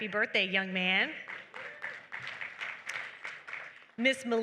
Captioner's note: applause